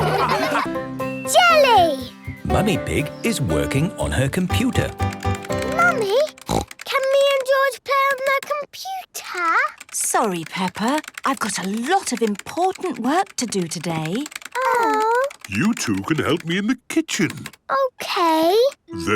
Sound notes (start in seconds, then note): 0.0 all laughing; 6.4 snorts